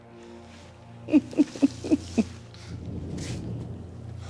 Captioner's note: chuckles